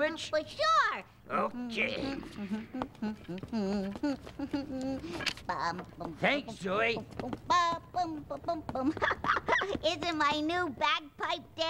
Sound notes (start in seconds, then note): 2.1 humming